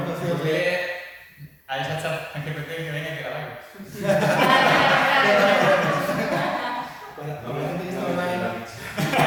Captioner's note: laughs